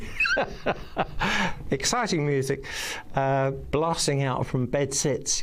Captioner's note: laughing